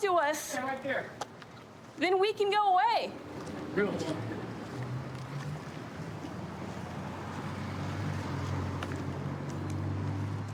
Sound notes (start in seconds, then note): 6.6 vehicles driving